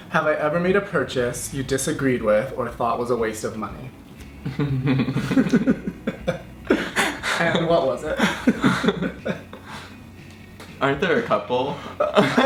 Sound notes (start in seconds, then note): 4.4 chuckling